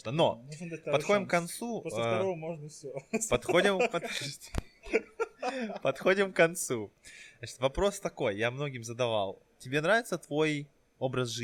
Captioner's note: laughing